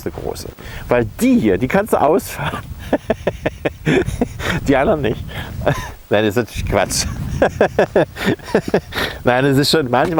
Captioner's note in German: lacht